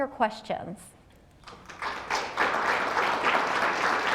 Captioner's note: applause